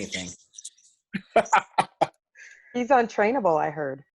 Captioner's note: laughs